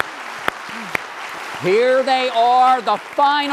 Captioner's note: applause